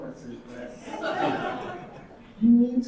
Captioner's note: audience laughing